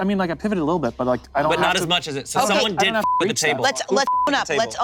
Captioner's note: beep